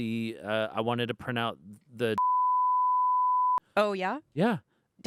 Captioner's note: beep